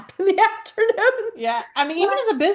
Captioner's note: laughs